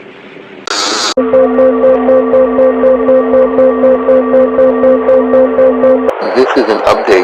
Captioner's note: audio alarm